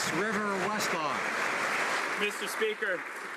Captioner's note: applause